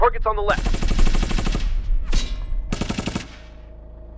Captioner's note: gunner returns fire